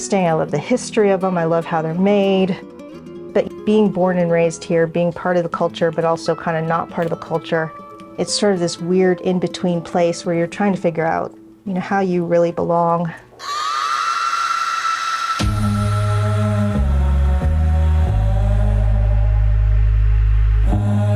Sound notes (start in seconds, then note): 13.4 person screams; 15.3 person vocalizing